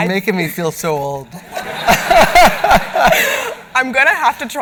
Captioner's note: laughter